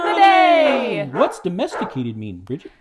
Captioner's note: dogs barking